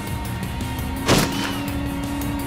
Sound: car accelerating; gun shot

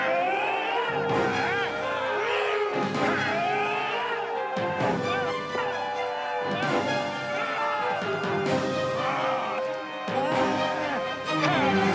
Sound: angry shouts

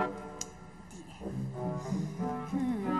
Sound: clicks tongue

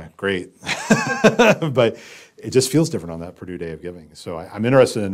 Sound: laugh

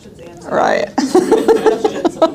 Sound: laughs

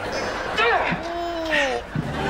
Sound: grunting

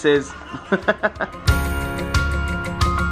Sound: laughing; happy upbeat music

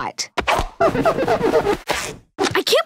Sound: squeaking

